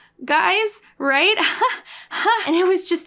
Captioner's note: laughs nervously